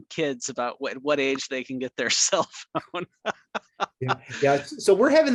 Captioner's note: laughs